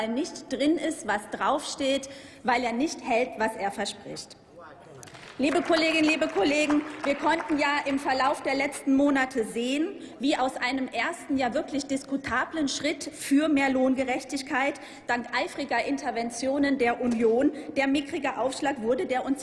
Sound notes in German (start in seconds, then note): 5.0 Applaus